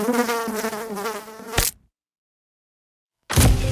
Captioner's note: fly buzzing; fly splatting; mysterious music